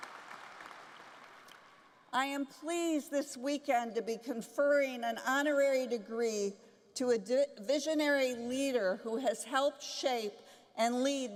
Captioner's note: applause